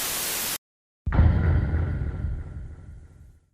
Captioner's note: Undertale DUN-DUN SFX